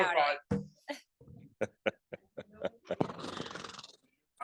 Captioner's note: laughing